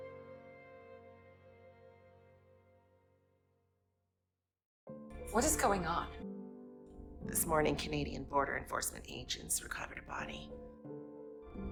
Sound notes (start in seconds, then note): 5.4 voiceover; 7.8 voiceover